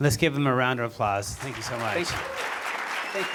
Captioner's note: applause